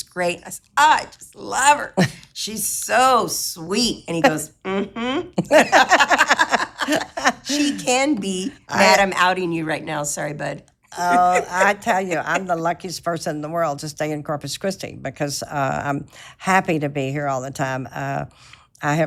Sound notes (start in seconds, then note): 4.7 both laughing